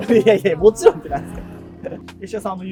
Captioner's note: laughing